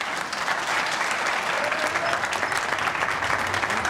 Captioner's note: applause